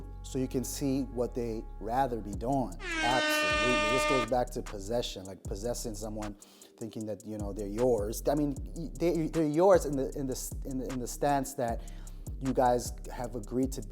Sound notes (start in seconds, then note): 2.8 horn blows